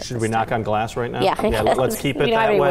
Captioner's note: laughs